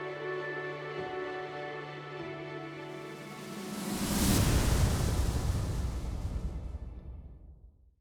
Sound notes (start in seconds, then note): 0.0 gentle music; 3.2 graphics whooshing